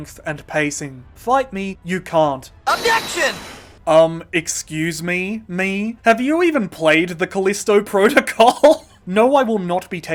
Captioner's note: bursts out laughing